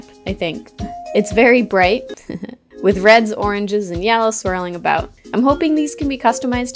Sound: heheh

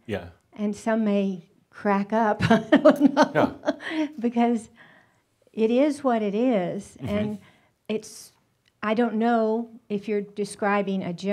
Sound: she chuckles

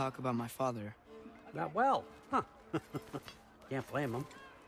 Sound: laugh

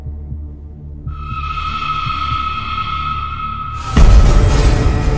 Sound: scary Voice

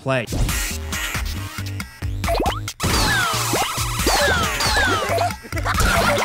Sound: objects clattering; upbeat music; characters laughing and screaming

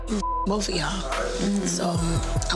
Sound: beep

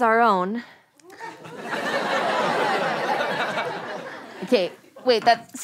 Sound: audience laughter

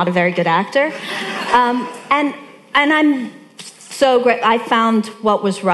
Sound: audience laughing

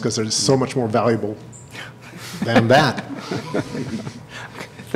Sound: laughter

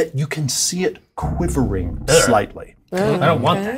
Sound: thrumming

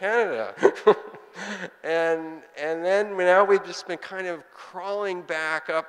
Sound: laughing

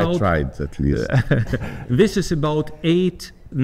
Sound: chuckles

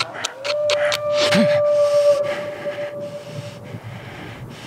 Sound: animal howl

